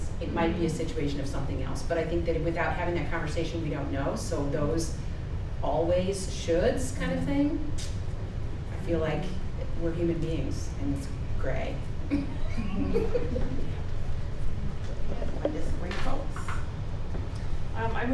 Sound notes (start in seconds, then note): 12.0 giggles